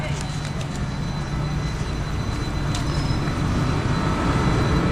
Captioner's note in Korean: 호다닥호다닥